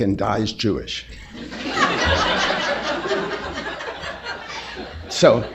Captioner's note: laughter